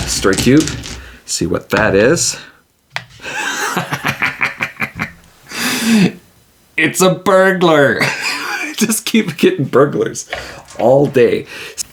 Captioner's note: laughs